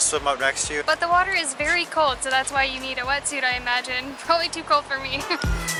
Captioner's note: giggles